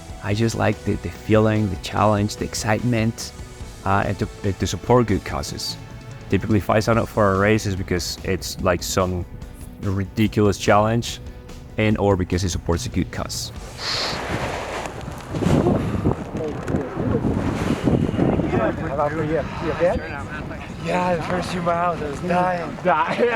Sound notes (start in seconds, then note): 15.5 wind blows; 19.9 fellow cyclist speaks softly